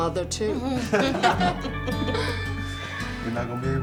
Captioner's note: all laughing